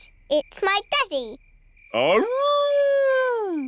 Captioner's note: howling